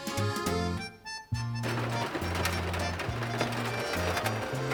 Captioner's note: rain drops; laughs